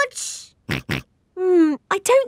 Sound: snorts

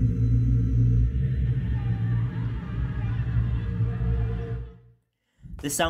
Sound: ominous wind and string instruments; children laughing

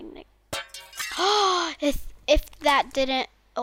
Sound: gasps

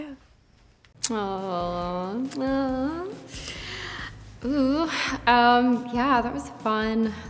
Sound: Natalia sighs affectionately

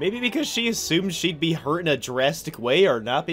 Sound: none

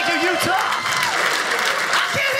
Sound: audience cheers

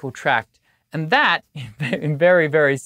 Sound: chuckles

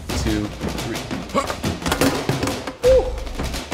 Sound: grunts

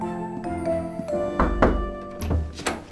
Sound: knocking on door

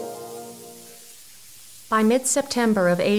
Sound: rustling grass

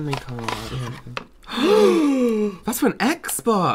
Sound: excited Gasps

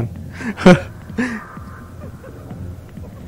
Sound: laughs in embarrassment

